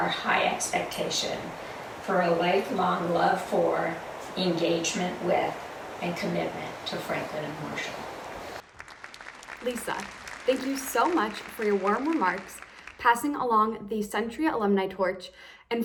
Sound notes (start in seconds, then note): 8.6 audience applause